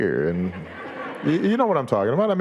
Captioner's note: audience laughing